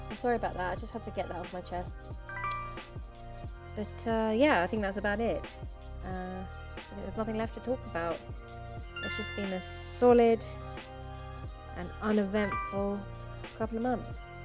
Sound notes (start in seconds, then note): 2.3 notification sound; 8.9 notification sound; 11.7 notification sound